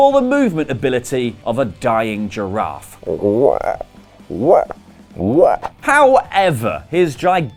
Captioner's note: South Park giraffe noise